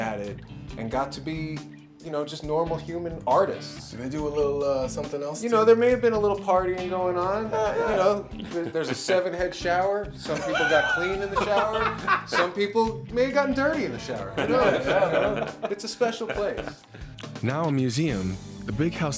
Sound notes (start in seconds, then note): 10.3 laughs